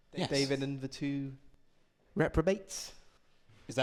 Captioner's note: none